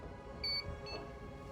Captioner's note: beep